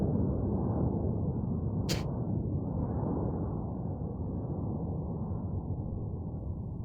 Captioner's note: wind howling continues; person spits